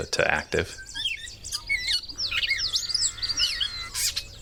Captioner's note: birds singing